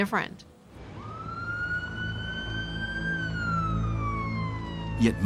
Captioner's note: siren blaring